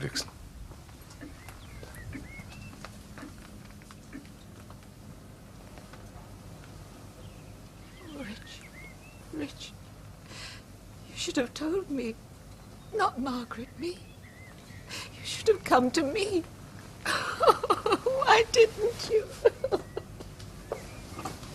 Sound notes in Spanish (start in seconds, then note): 20.2 llora